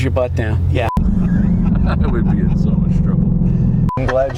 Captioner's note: laughing